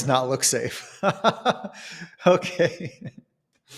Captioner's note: laughs